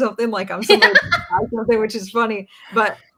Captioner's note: laughs